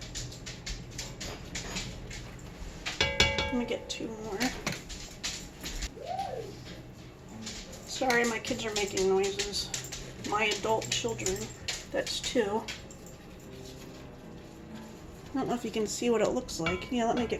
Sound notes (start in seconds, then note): 2.9 clang, clang